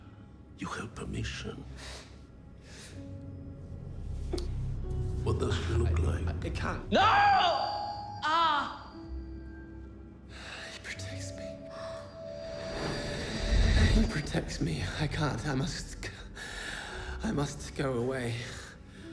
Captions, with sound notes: You have permission. What does he look like? - I, I can't. No! (high-pitched ringing) (groans) He protects me. He protects me. I can't, I must... I must go away.